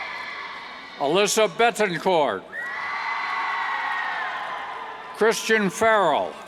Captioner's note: cheers